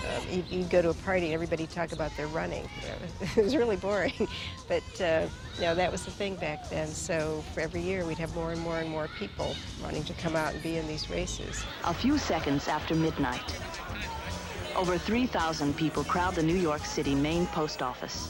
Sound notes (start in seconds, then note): 10.6 woman over TV